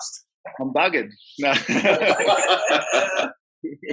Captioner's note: laughs